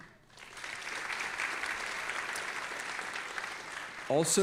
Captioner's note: audience applauding